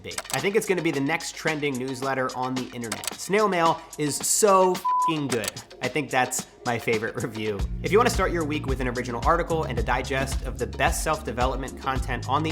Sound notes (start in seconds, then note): 4.8 beep